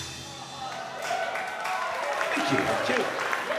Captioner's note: cheers and applause